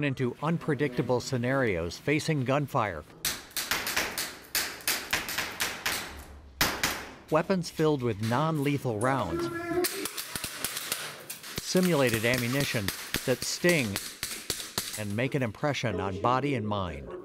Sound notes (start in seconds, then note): 3.3 gun clicks; 10.0 gun clicks